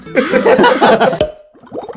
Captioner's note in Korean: 웃음